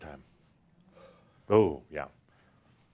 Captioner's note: sighs